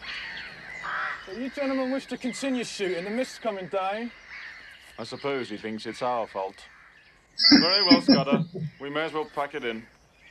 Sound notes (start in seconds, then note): 7.4 chuckling